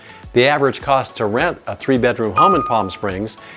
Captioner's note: bell dings